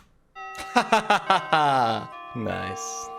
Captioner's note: laughs